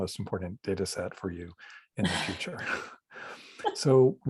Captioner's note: laughs